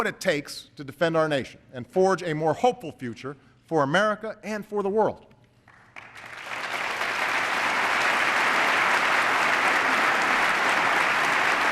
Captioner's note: applause